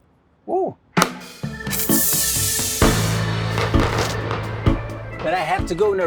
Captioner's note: pop out of the cork